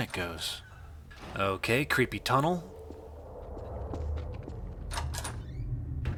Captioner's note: low wind; door creaks open and slams